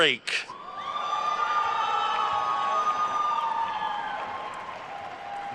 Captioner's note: attendees cheering and applauding